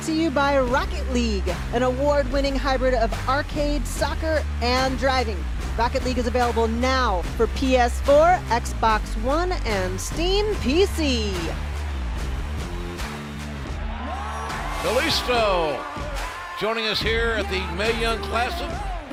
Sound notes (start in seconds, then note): 14.5 cheers and applause